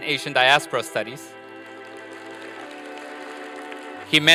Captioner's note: applause